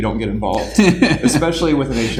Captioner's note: laughing